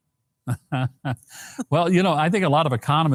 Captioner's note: Mike laughs